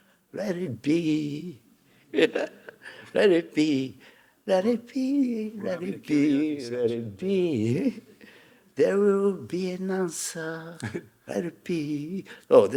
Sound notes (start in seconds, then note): 2.1 Hiroshi chuckling; 7.4 Hiroshi chuckling